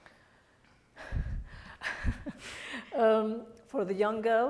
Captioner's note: Ameenah laughs